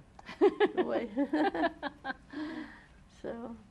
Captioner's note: laughter